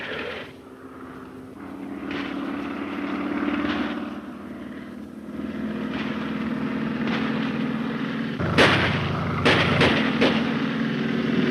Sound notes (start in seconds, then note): 2.2 planes buzzing; 5.4 guns firing; 8.4 gun firing